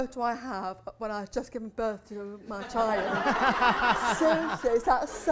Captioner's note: laughter